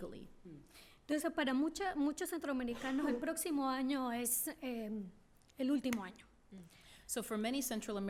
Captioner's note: speaking spanish